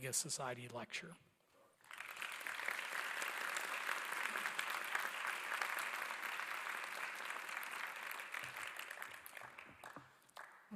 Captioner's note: applause